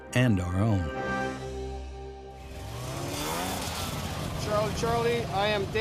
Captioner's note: snowmobile